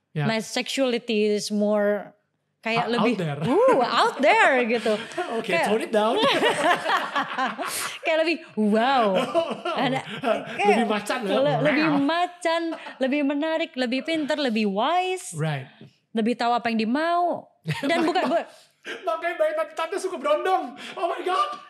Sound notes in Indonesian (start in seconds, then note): 6.2 tertawa